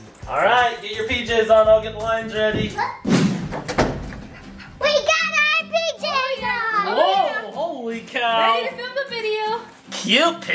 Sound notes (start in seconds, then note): 3.0 door closes; 4.8 exclaiming